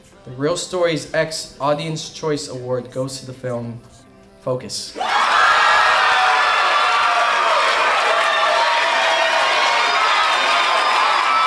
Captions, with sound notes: The Reel Stories X Audience Choice Award goes to the film, Focus. (cheering)